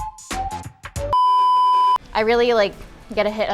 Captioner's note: beep